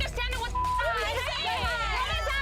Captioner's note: beep